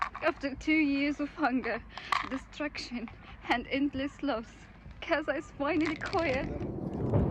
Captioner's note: crying